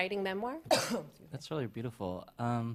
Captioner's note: coughs